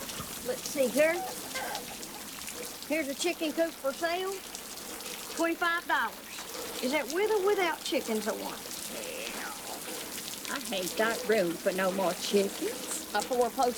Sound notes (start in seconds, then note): none